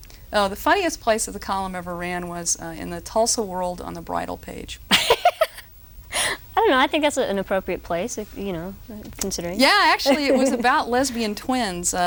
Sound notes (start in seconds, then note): 4.8 roaring laughter